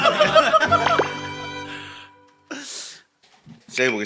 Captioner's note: gabbling